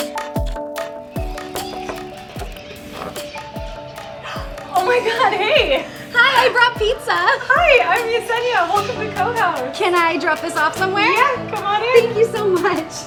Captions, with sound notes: (knuckles rapping) - (gasps) Oh my god, hey! - Hi, I brought pizza! - Hi, I'm Yesenia. Welcome to Cohaus. - Can I drop this off somewhere? - Yeah, come on in. - Thank you so much.